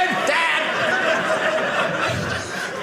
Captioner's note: audience laughing